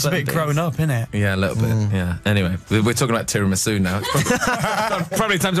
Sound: laughter

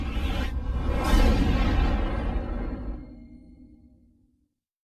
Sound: tornado halts

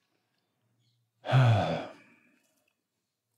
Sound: sigh

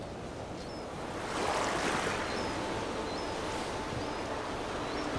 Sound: waves crashing

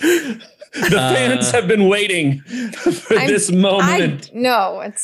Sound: laughs

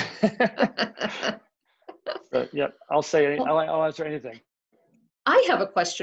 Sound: laughs

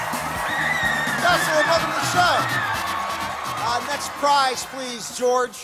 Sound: cheers and applause

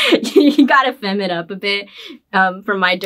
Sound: laughs

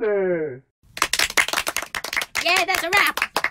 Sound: clapping

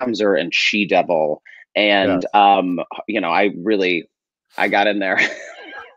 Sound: laughs

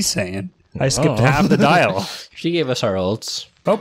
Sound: laughs

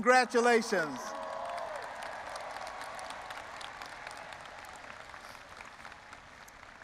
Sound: audience applauding and cheering

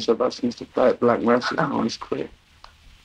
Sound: chuckles

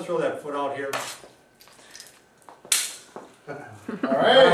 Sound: object clanks

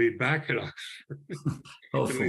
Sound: laughter

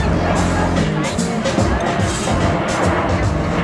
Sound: airplane engine roars

